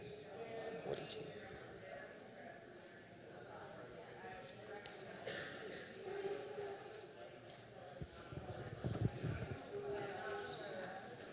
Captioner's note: indistinct chatter